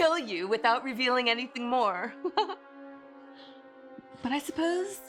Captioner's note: laughs